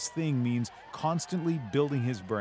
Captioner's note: cheers and Applause